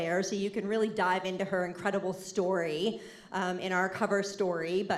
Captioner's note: none